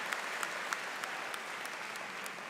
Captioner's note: applause